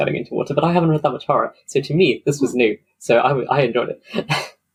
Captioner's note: laughs